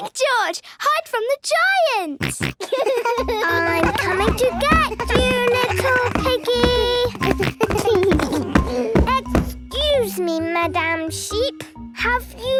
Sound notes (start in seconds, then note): 2.2 giggles, snorts; 6.8 giggles